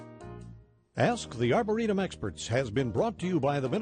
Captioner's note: voiceover